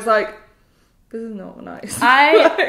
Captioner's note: laughs